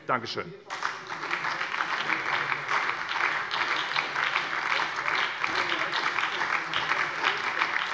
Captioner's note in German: Anhaltender Beifall bei der SPD und der LINKEN